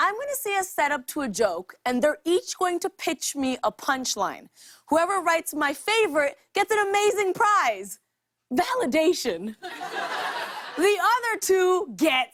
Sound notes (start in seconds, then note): 9.6 laughter